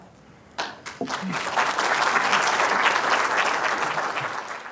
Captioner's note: applause